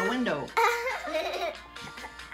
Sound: laughing

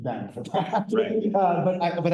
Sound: laughs

